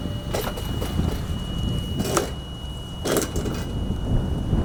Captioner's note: wood crunching